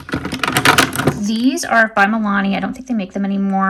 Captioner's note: items thudding